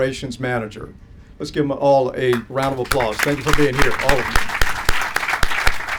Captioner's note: applause